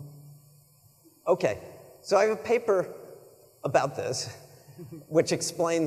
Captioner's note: chuckles